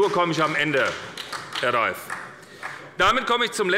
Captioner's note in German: Beifall bei Abgeordneten der SPD